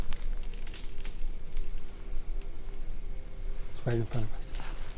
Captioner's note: branches crack